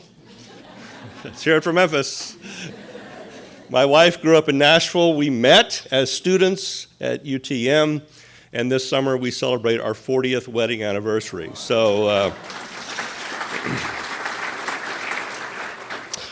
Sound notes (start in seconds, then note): 0.1 audience laughs; 2.3 audience laughing; 11.4 audience applauding